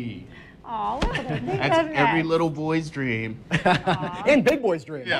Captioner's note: laughs